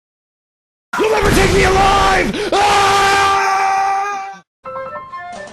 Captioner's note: screams; transition music